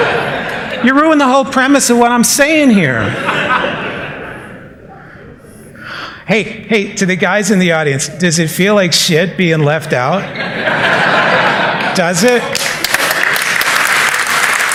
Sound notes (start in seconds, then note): 3.0 laughter; 10.2 laughter; 12.4 applause